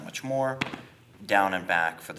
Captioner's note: gentle tapping